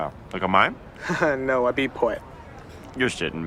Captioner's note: chuckles